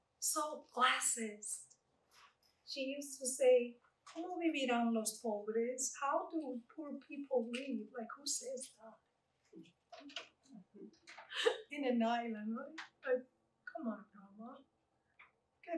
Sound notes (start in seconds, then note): 5.1 Spanish